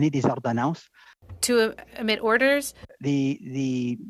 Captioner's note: speaking in French